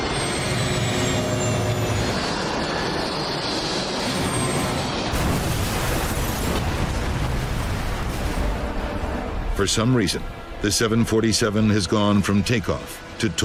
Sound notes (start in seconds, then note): 5.1 plane crashes